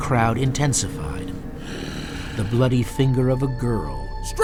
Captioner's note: voiceover